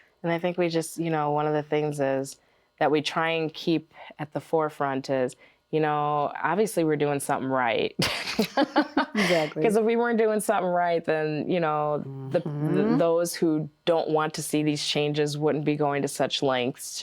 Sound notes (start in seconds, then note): 8.3 laughs